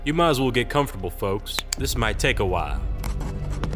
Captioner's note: pen clicks